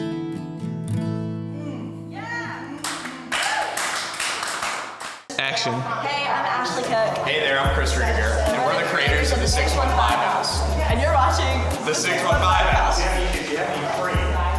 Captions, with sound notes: (music fades) (audience applauding) - Action. - Hey, I'm Ashley Cooke. - Hey there I'm Chris Ruediger. - And we're the creators of The 615 House. - And you're watching - The 615 House.